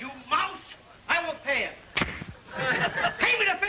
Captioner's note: hand smacking